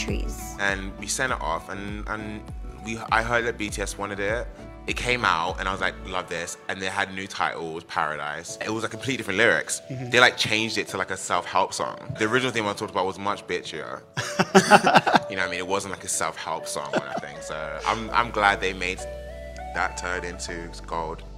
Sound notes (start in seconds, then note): 14.4 interviewer laughs